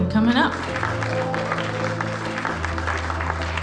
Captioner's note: clapping